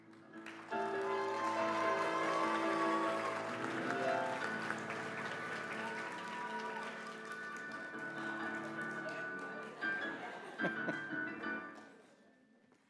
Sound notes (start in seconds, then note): 0.0 applause; 9.5 laughter